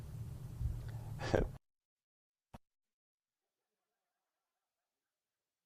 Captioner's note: chuckles